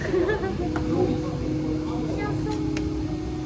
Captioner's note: haha